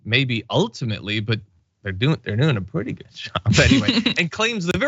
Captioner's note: laugh